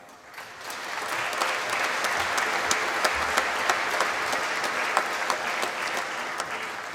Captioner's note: applause